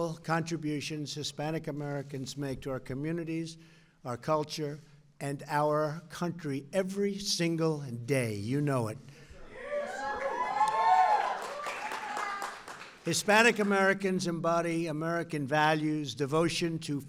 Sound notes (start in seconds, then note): 10.2 applause